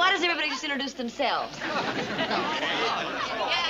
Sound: people talking

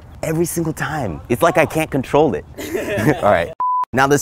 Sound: guy laughing

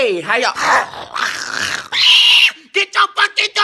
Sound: garbled da-hum-ing and screaming

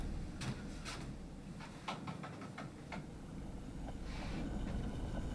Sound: music subsides; soft rattling

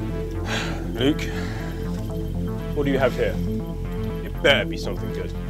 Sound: sighs

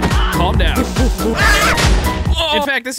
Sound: screaming; screaming

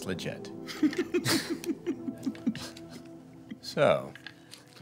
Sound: men laugh

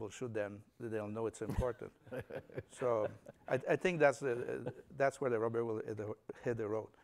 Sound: laughter

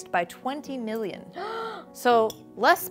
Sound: gasps

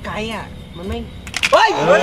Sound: hitting

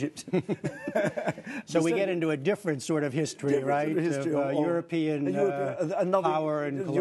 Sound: laughter

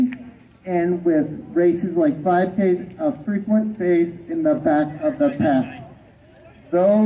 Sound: background chatter from the crowd

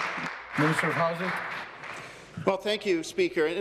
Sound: applause

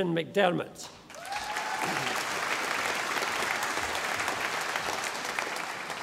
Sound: audience applauding

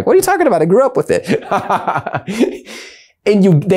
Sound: laughing

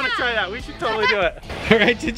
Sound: laughing

